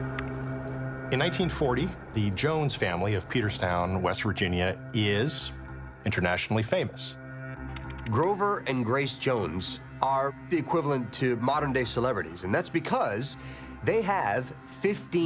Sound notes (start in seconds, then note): 7.7 computer keys clicking